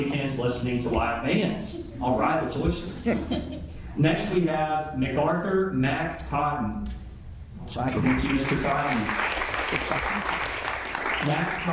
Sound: applause

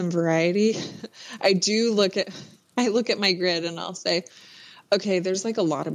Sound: laughs

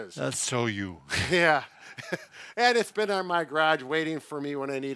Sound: laughs

